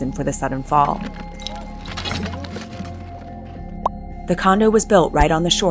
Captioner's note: debris clattering